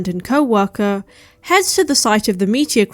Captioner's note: none